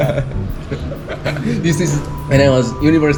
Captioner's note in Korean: 웃음